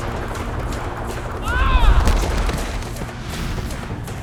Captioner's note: screaming